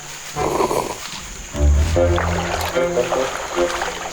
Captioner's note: orangutan slurping